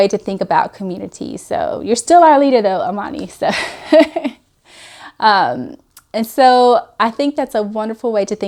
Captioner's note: laughs